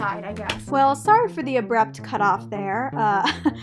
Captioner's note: voice over